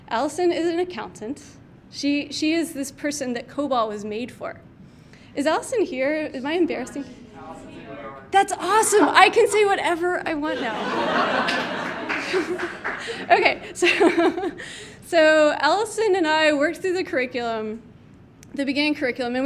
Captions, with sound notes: Allison is an accountant. She is this person that COBOL was made for. Is Allison here? Am I embarrassing? That's awesome. I can say whatever I want now. [audience laughing] [audience member clapping] Okay, so Allison and I worked through the curriculum, the beginning curriculum,